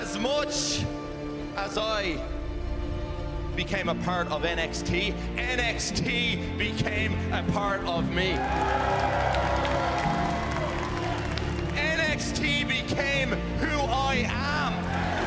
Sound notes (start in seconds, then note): 8.2 cheers and applause; 14.4 fans chanting